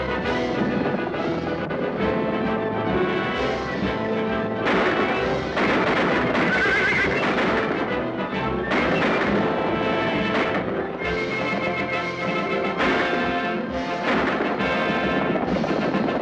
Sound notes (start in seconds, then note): 3.8 gunshots